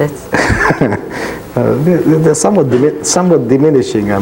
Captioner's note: laughs cheerfully